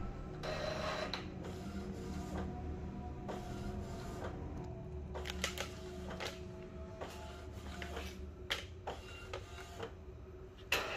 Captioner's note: printer machine sound